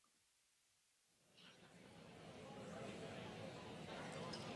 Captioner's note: group chatter